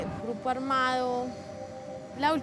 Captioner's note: none